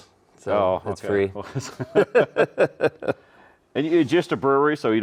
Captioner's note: both laughing